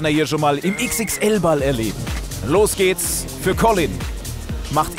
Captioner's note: Pfiff